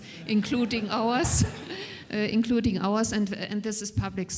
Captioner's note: audience chuckles